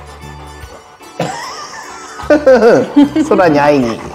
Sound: laughs

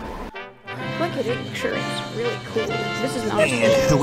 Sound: audience chattering

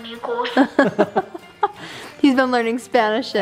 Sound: laughs

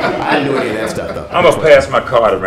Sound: laughter

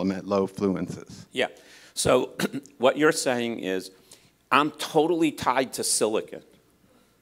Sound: cough

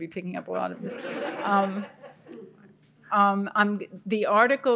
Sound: audience laughing

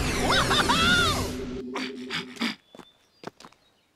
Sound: breathes heavily

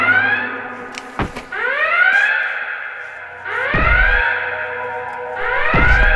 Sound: alarm blaring; tense music

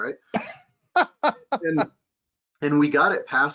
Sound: laughing

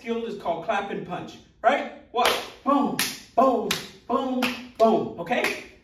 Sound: clap

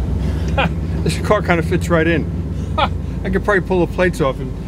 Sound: laughs; laughs

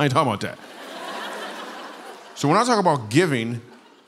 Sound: laughter

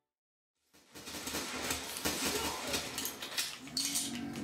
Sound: guns firing

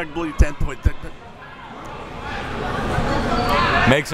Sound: mumbles

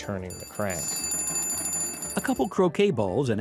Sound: bell ringing

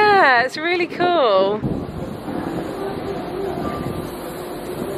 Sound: ship humming

